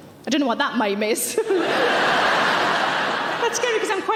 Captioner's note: audience laughing